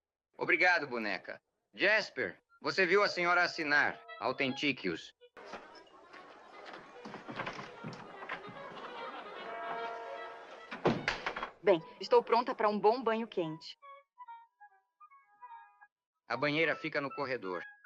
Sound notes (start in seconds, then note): 10.7 door thuds